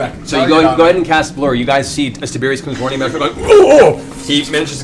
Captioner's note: startled sounds